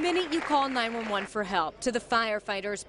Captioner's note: applause